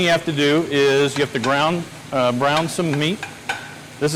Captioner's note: utensil thudding